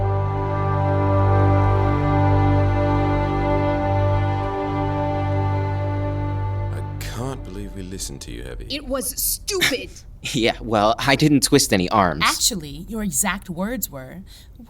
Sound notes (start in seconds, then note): 6.6 transitional ambience